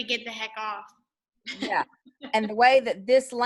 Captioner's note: chuckles